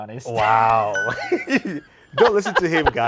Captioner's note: bell pings